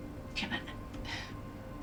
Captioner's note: sighing